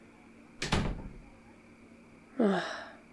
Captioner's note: door closes